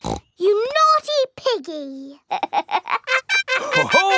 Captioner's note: snorts; laughs